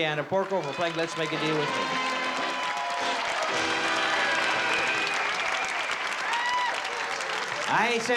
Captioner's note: applause; british accent